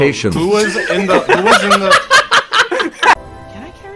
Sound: laughing

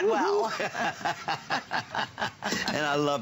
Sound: laughter

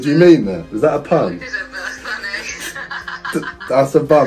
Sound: laughs

